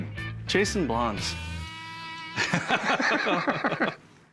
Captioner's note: laughter